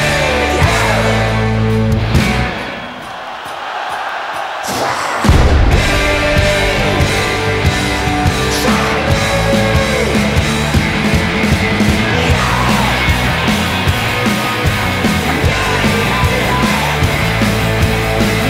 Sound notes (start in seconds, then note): 3.6 audience cheering